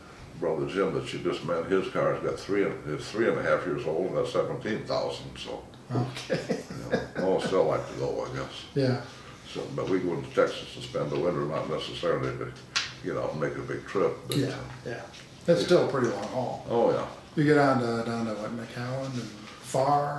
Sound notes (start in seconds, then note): 6.0 laughing